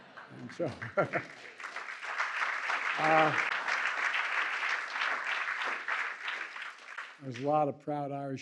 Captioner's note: laughter and applause